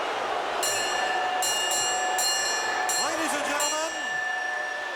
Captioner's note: bell ringing